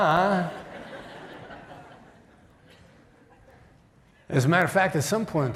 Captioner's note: laughter